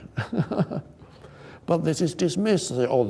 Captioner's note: laughs